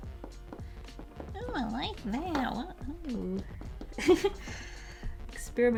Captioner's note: laughs